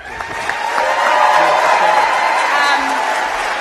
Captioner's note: applause and cheering